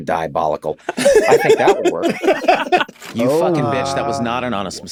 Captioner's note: laughing